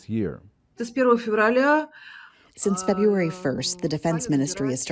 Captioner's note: through translator